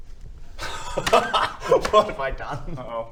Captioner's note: scared laughter